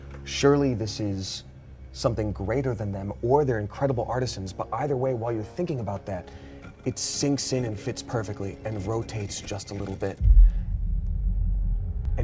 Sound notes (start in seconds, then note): 6.6 stone grating; 10.2 thump resounds